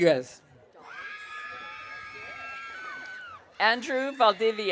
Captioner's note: audience cheering